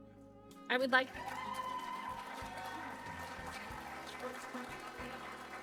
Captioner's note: applause